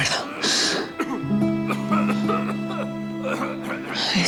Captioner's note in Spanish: Se oye toser a Ramón